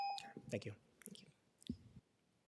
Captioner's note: tone